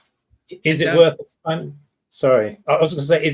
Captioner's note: speaks faintly